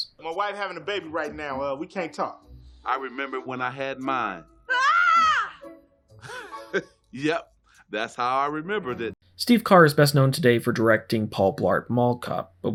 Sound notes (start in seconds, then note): 4.7 scream from phone; 6.2 chuckles